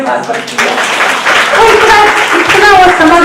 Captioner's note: audience claps